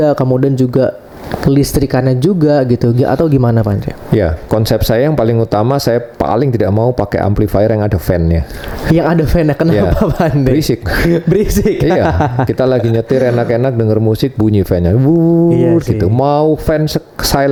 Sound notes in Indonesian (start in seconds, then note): 9.5 tertawa